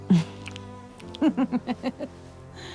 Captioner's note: laughs